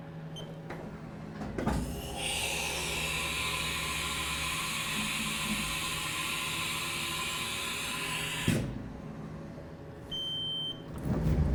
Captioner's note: machine whirring